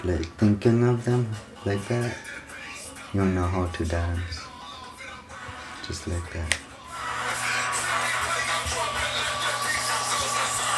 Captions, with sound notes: or once you start like, thinking of them like that, you'll know how to dance. Just like that. [snaps]